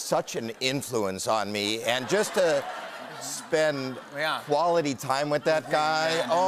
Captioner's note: laughter